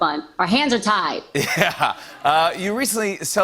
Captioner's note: laughter